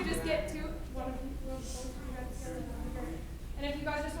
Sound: speaking faintly

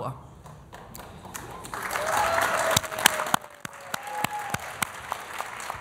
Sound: applause

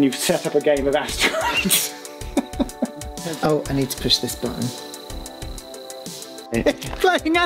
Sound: laughs

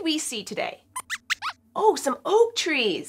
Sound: squeaks

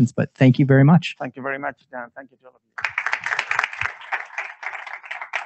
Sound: claps

